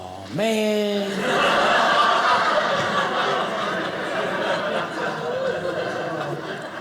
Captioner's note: audience laughing